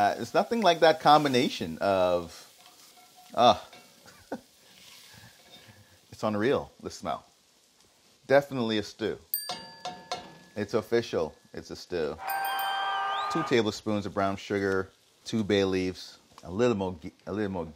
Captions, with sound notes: There's nothing like that combination of, ah. It's unreal, this smell. Definitely a stew. [dinging] It's official, it's a stew. [dinging] [crowd cheering] Two tablespoons of brown sugar. Two bay leaves, a little more ghee.